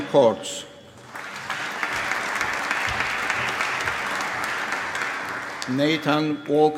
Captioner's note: applause